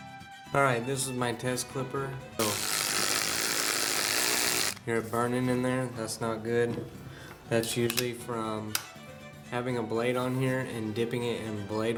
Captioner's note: motor grinding